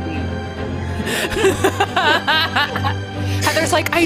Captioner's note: laughing